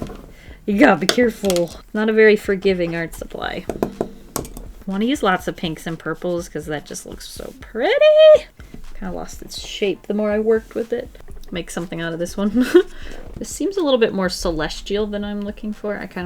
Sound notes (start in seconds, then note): 12.5 giggles